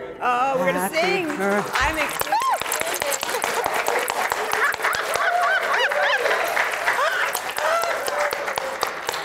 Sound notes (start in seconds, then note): 0.5 laughing; 0.8 applause